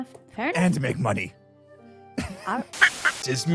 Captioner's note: laughs